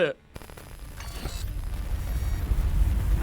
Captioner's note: stammers; static crackling; ominous rumbling